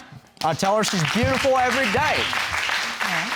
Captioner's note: applause